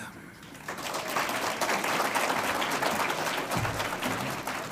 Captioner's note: audience applauds